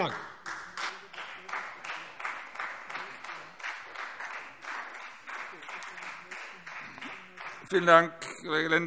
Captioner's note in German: Beifall Freie Demokraten und vereinzelt SPD